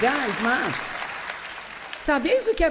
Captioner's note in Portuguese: plateia aplaudindo